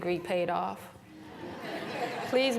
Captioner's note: laughter